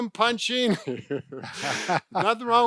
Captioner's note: laughs